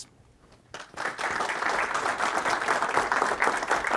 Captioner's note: audience applauds